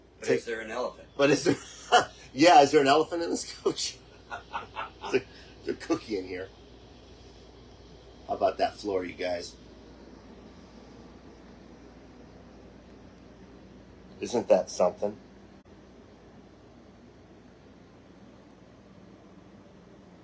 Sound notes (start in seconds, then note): 1.3 laughing; 4.0 both laughing